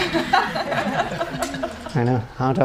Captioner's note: audience laughing